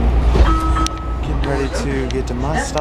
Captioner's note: metro door chime